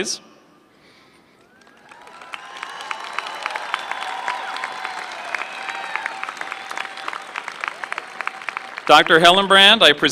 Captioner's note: applause